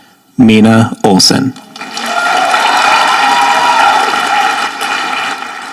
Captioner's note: audience applauding